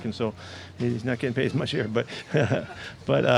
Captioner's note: man chuckles